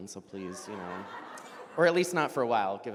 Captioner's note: audience laughs